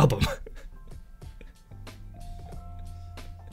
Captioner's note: laughing